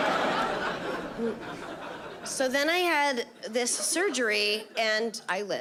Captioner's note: chuckles; audience laughing